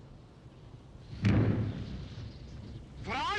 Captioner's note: exploding